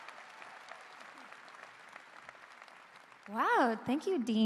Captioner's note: applause